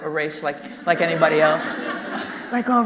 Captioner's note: audience laughing